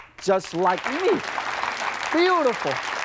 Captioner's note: audience claps